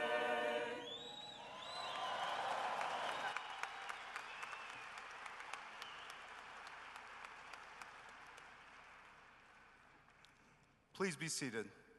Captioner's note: cheering and applause